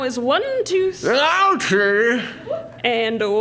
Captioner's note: mouth full